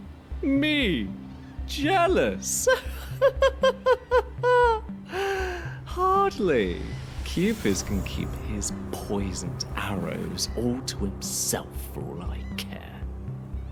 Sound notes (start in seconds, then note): 2.7 laughs